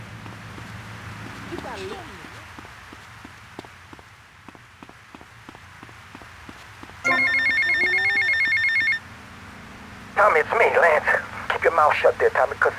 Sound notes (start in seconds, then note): 7.0 phone ringing